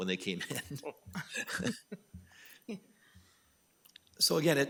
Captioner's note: all laughing